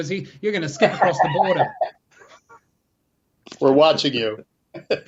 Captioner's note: laughs; laughs